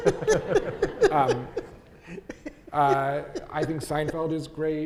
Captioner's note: audience laughing